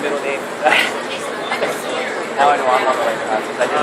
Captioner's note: laughs